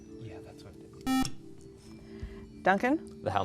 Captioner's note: buzzer